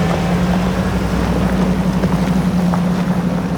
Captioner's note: engine rumbling